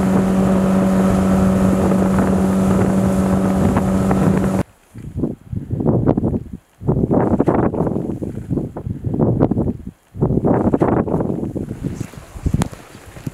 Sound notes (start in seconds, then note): 0.0 boat engine rumbling; 4.9 wind sound